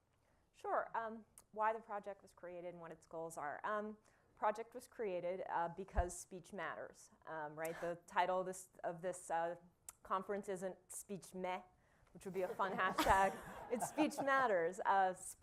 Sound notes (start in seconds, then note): 12.3 laughter